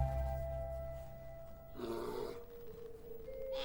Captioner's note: mother bear snorts